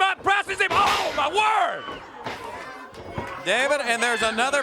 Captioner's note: crowd cheering